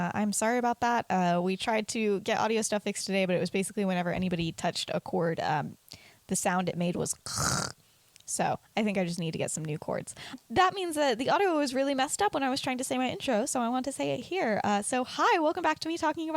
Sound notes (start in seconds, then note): 7.3 imitates buzzing noise